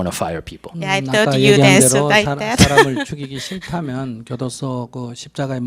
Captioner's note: laugh